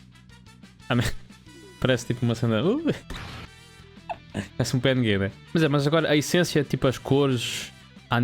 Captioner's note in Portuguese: risadas